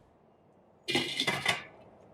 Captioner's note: lid clatters